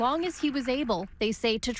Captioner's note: applause